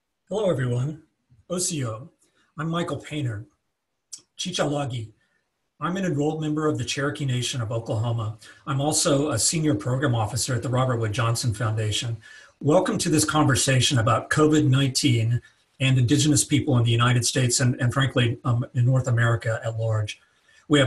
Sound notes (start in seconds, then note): 1.4 introduces himself in Cherokee; 4.3 speaking in Cherokee